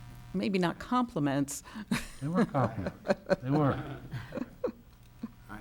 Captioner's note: laughs